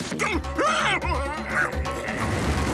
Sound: exclaims

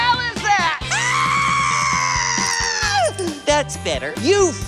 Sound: yelling

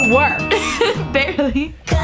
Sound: laughs

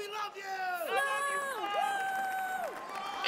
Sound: crowd yells out

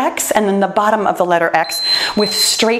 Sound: timer beeps

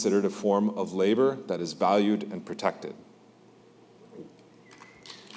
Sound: applause

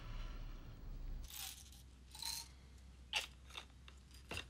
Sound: shudders; pills rattle

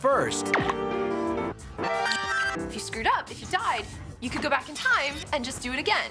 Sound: rewinding

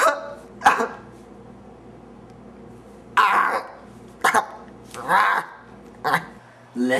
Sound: sobs; intermittent sobs

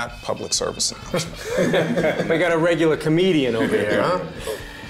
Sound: laughter

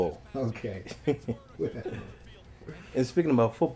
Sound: both laugh

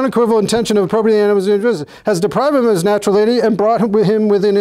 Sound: mumbles

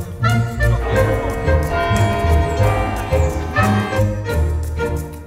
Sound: church bells ring

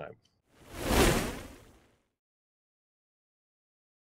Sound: logo whooshing

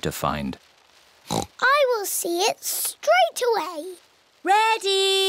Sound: oinks

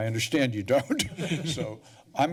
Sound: laughs

